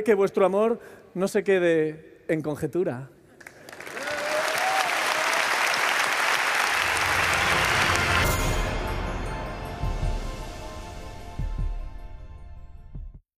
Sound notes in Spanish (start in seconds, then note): 3.4 Aplausos